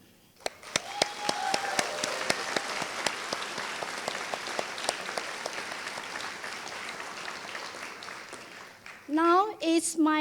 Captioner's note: applause